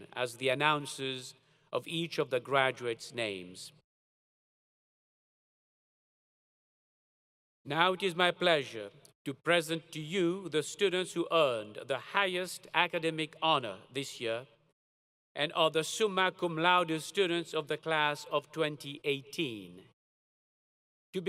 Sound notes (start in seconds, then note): none